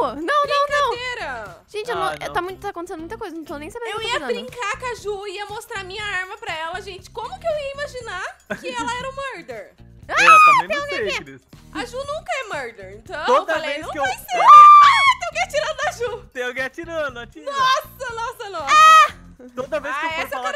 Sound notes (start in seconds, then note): 8.4 laughing on background; 10.1 screaming; 14.3 screams